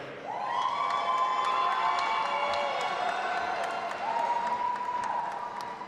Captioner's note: audience applauding and cheering